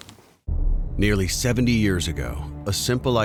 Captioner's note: voiceover